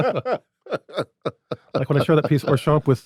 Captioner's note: everyone laughs